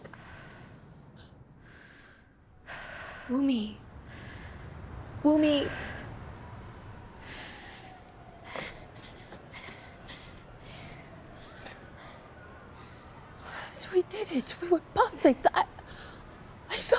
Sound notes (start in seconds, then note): 0.7 Wumni breathes heavily; 8.2 Jenny panting